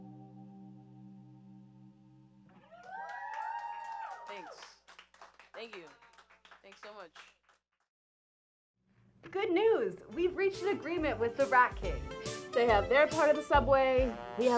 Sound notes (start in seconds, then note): 2.6 cheering